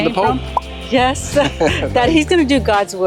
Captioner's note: both laugh